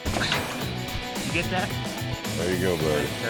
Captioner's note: unlocks gate